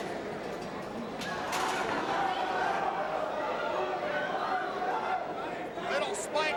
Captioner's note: guardrail clinking; crowd chattering